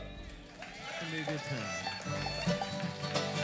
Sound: clapping

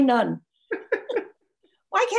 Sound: laughs

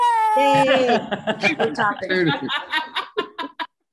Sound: laughing

